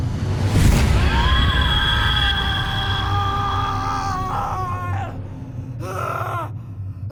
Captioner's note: dramatic music; Nero screaming